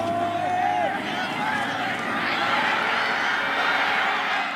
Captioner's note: crowd cheering